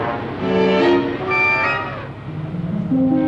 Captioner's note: elephant trumpets